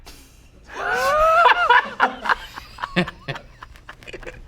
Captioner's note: both laughing